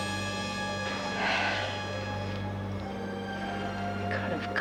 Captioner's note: sighs